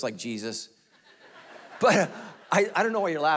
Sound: congregation laughing

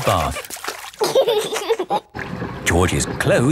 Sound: giggling

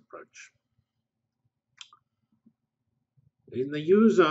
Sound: pause

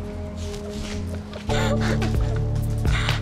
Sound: laughing

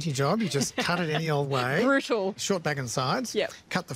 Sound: laughs

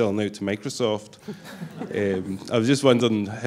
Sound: laughter

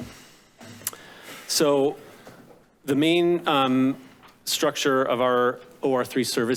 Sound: clicks tongue

